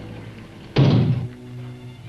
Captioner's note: knocks